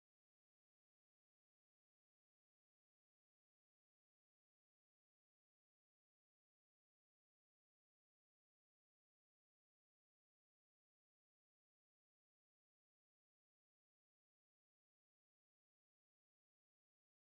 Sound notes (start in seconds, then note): none